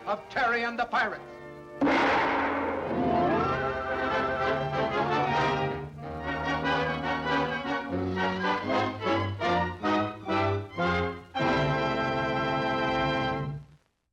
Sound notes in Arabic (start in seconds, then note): 1.8 قرع غونغ; 1.9 موسيقى أوركسترا درامية